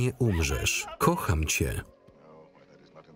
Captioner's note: sobbing